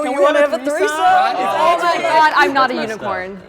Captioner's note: group chattering